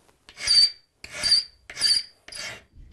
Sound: squeaking noises

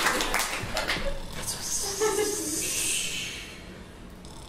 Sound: snores; whispers

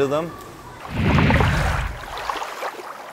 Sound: whoosh

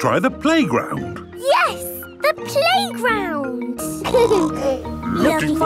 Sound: laughter; snorting

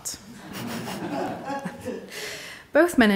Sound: audience laughing

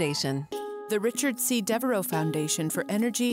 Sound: voiceover

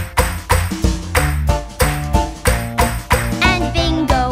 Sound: clap

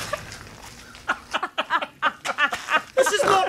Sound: laughs and snorts

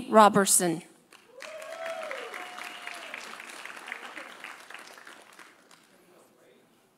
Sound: audience applauding; audience cheering

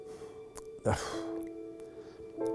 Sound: sighs

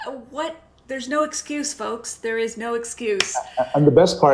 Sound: claps

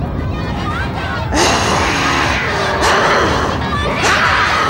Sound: grunts

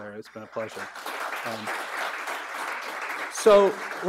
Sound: audience applauds

